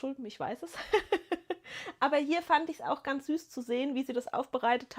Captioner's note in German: gelächter